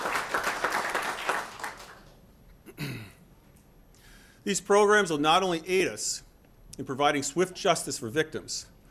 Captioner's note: applause